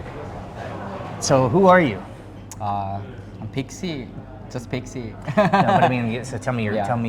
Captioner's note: laughs